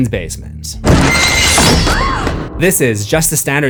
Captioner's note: screams